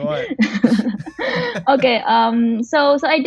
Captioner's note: laughs